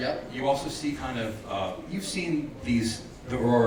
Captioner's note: none